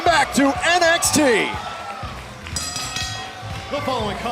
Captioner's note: bell ringing